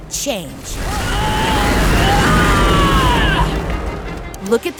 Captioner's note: screaming